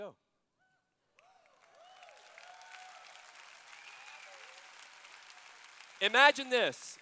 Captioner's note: cheers